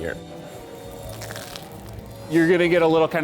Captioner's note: toast crunches